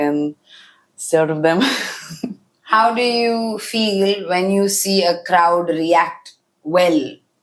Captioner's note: laughs